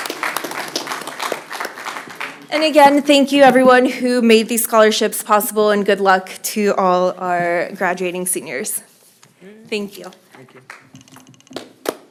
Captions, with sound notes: >> [ APPLAUSE ] >> CONGRATULATIONS. >> CONGRATULATIONS. AGAIN, WE THANK YOU EVERYONE AGAIN, WE THANK YOU EVERYONE WHO BABIES SCHOLARSHIPS